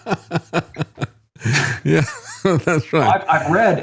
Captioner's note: laughing